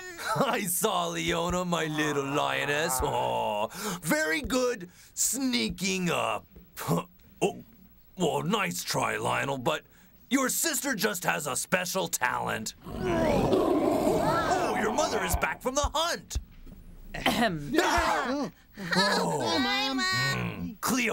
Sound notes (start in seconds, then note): 12.8 roaring; 17.1 clears throat